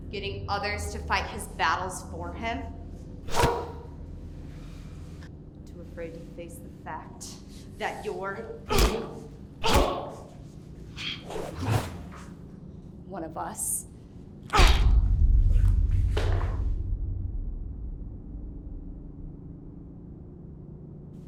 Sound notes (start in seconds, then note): 3.3 grunting; 8.6 grunting; 8.6 smacking; 14.6 cracking